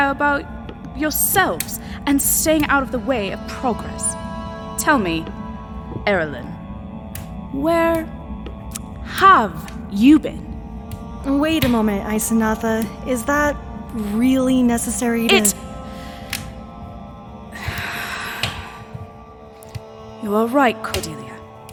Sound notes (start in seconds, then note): 16.9 sigh; 17.5 beat then deep breath